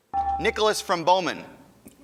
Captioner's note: ding